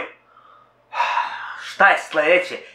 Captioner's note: sigh